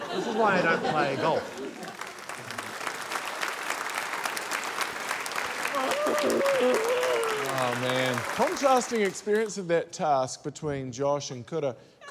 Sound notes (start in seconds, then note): 2.9 applause; 5.8 groans